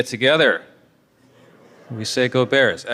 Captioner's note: crowd shouting